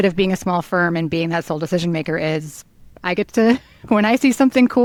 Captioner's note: chuckles